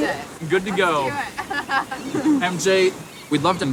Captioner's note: laughs